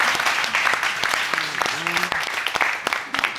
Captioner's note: audience applauding